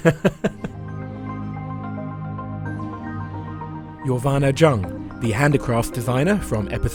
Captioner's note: voiceover